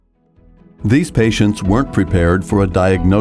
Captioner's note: voiceover